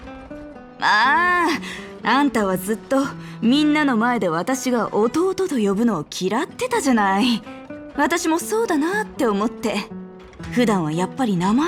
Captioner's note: sigh